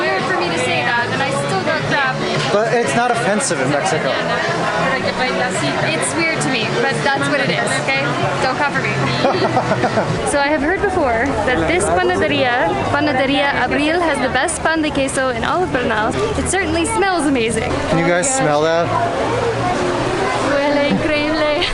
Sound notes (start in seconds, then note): 9.0 laughs